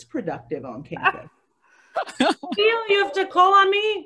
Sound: laughing

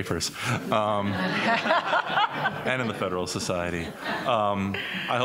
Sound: laughter

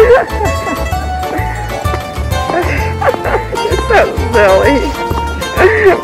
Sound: laughing

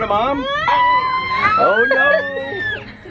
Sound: squealing

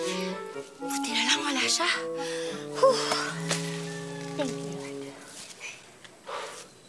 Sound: exhales

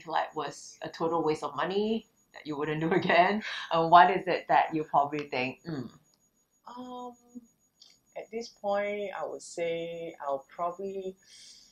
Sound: laughters

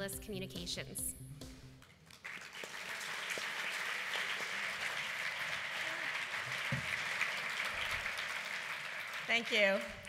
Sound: applause

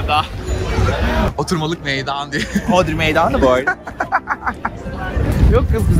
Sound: laughs

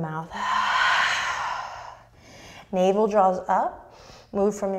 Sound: deep breath

